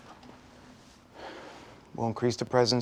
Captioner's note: sighing